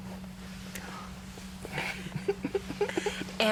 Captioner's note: laughs